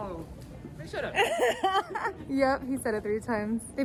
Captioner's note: laughing